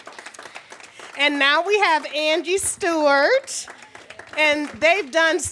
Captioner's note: applause